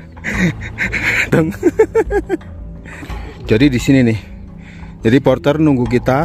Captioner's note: laughs